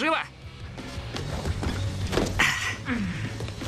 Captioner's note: sighs